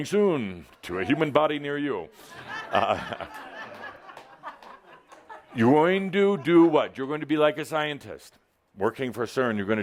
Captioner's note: laughter